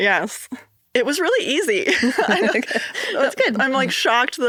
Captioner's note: chuckles